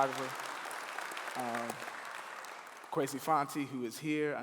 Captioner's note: clapping